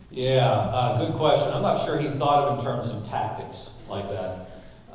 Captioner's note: none